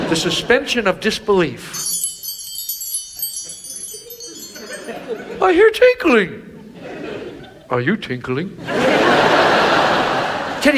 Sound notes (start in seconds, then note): 1.6 chimes tinkling; 8.6 audience laughs